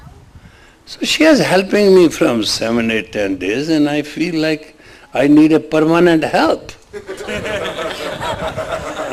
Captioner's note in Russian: смех